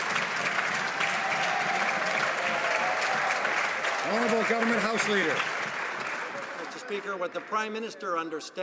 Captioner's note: some Applause